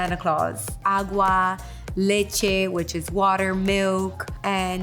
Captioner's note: speaking a foreign language